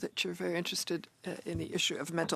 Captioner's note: speaking French